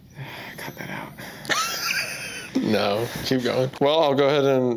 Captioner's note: laughs